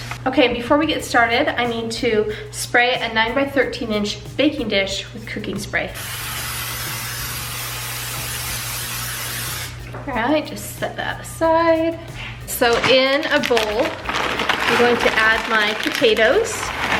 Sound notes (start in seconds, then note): 5.9 can spraying